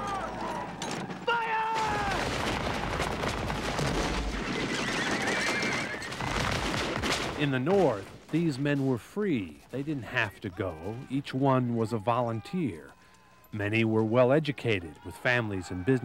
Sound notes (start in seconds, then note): 2.2 gunfire and Horse Panic